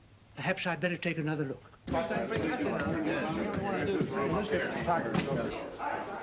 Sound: reporters chattering

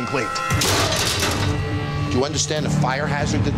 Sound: metal tray clatters

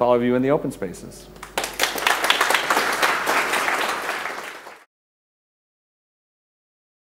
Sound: applause

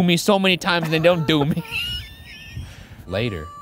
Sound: laughing

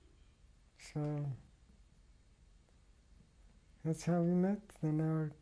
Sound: pauses for 3 seconds

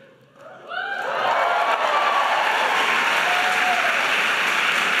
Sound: audience applauding

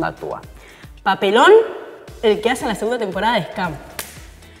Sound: claps

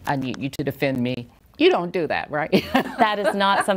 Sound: chuckles

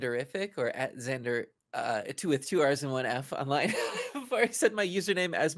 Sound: laughs

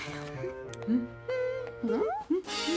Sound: hums

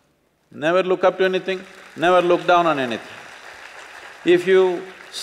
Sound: applause

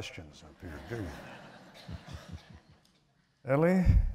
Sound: laughter

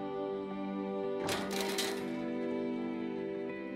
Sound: clanging

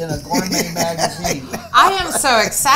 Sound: laughing

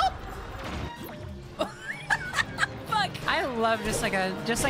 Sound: laughter

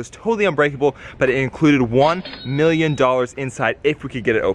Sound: cash register dings

